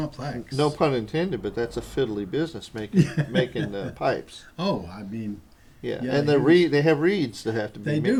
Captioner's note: laughter